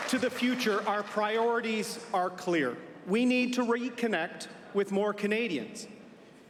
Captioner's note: applause